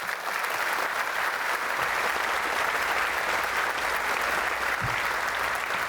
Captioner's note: applause